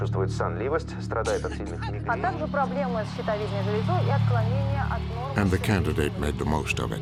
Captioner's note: reporters speaking Russian